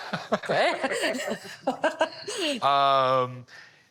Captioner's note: laughter